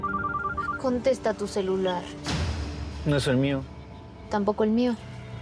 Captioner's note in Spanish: suena celular